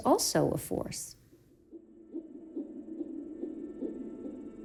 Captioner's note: heart beating on ultrasound